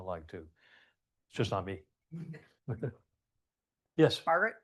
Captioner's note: chuckles